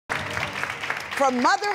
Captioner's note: applause